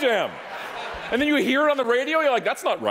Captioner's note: audience laughing